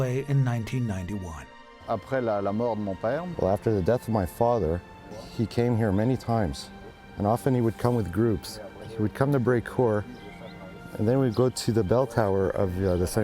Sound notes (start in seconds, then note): 3.9 speaking foreign